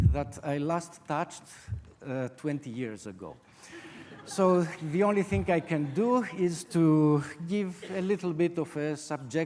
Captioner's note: audience laughter